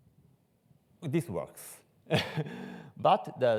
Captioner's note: laughs